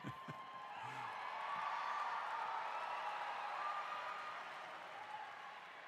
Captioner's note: crowd